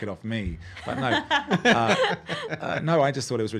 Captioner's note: laughing